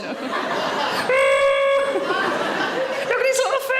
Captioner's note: Sarah grunts